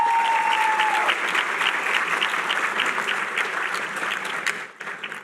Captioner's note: applause